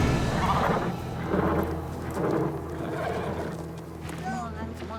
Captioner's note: horse neighing